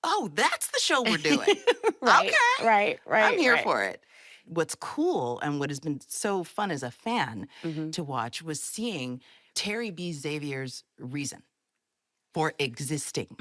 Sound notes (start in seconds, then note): 1.7 laughs